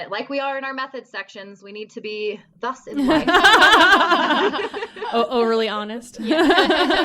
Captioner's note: laughter